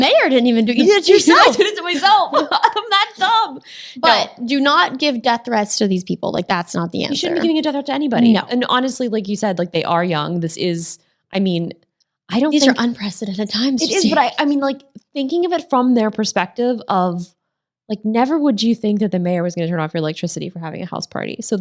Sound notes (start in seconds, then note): 0.8 laughs